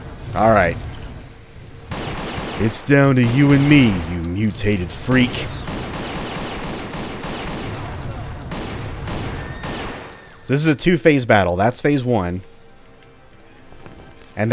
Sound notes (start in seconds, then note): 0.0 Project P.I.G. firing; 2.5 duke nukem voice